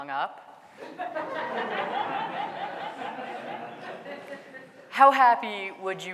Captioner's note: audience laughing